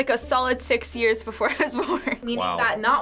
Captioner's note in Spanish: risas